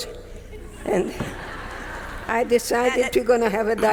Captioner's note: audience members laughing